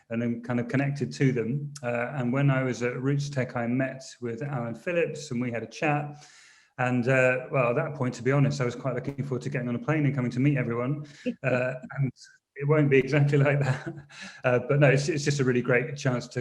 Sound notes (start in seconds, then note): 13.1 chuckles